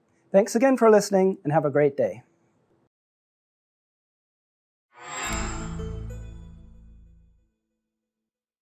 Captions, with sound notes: Thanks again for listening and have a great day. [CHIME]